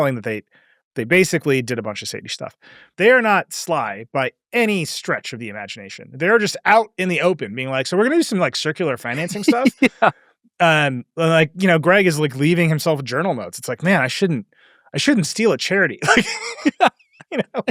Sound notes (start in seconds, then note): 8.8 laughs; 16.0 laugh